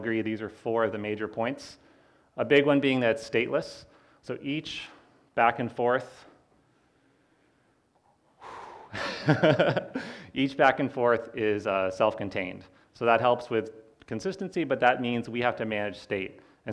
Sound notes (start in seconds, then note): 8.4 sighs; 8.9 laughs